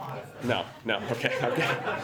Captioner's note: laughter